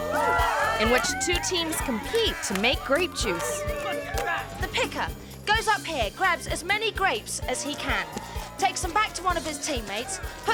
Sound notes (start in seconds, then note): 2.2 bright music continues; 2.2 spectators cheering